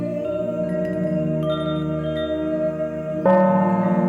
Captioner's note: ethereal music; wind chimes ringing; gong rings